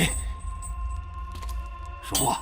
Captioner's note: the sounds of footsteps gradually moves closer